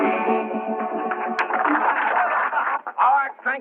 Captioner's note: applause